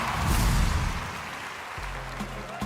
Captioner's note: cheers and applause